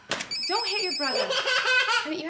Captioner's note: phone ringing; girl laughing